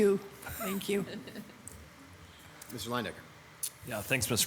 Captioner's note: laughing